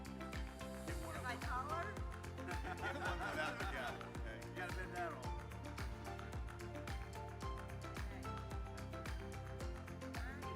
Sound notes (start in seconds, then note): 2.4 attendees laughing